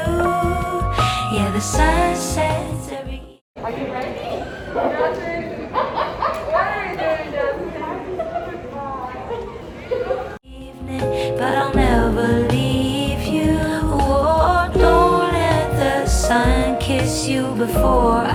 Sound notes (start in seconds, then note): 7.8 laughing